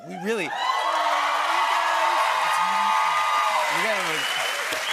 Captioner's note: cheers and applause